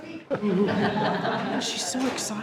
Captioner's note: all laughing